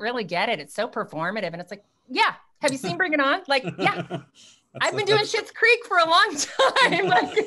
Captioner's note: laughs